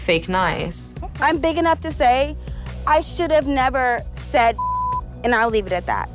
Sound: beep

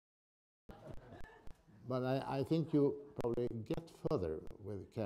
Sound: laughter

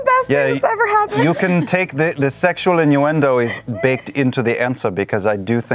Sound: Caleb voice

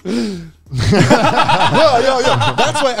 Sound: all laughing

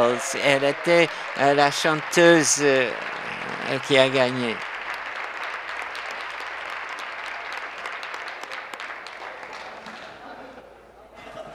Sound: applause

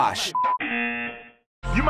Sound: buzzer

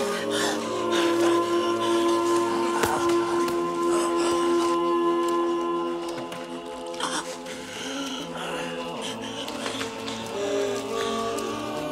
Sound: gasping

